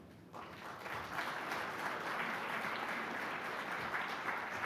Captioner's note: audience clapping